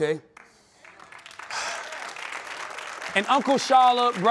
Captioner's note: sighs